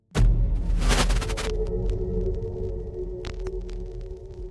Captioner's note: crackling static